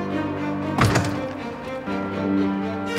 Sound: the door opens

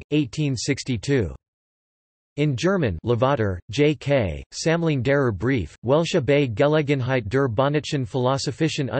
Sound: in German

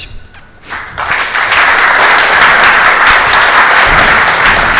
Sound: audience applauds

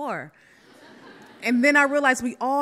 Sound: audience laughs

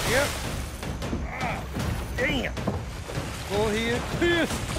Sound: grunts

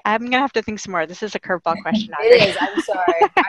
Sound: laughing

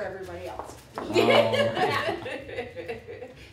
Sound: laughing

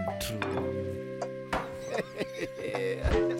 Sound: laughing

